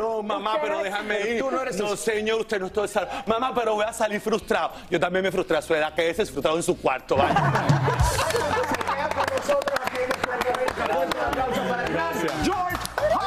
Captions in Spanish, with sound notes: SOBRE MI CAÁVER. [RISAS] VA TODO EL SAÓN. VOY A SALIR FRUSTRADO. QÉDESE FRUSTRADO EN SU CUARTO.